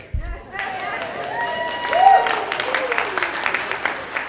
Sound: cheering

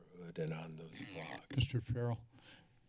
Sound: microphone sounds

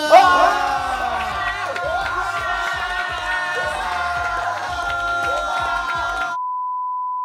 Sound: cheer

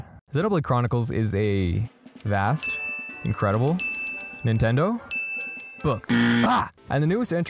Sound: ding; buzz; yell

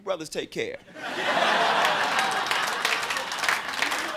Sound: crowd laughing

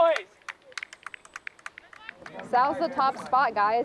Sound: players cheering

